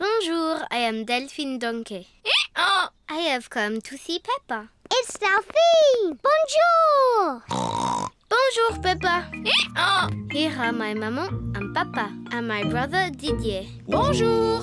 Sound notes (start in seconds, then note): 2.9 brays; 7.5 snorts